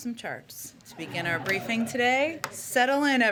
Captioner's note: laughter